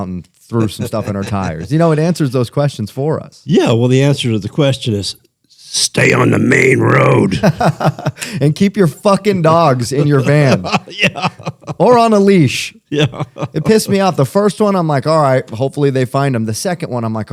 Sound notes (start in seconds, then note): 0.6 laughter; 7.3 laughter